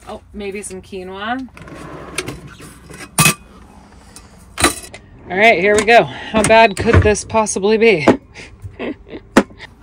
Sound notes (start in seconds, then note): 1.5 drawer whooshing; 2.8 metal clanging; 8.6 laughing; 9.4 cans thumping